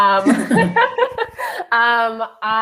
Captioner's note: they laugh